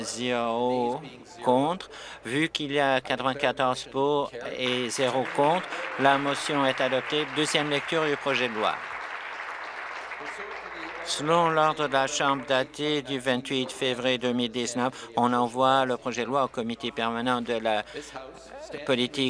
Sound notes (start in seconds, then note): 8.4 applause